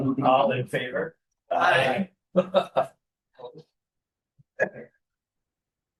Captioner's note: laughter